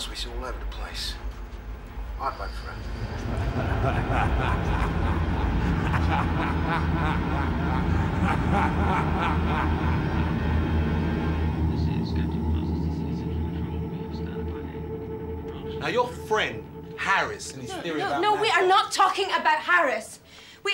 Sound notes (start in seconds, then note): 2.8 McRayer laughing; 3.3 eerie orchestral music